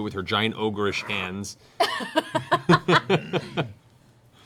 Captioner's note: laughter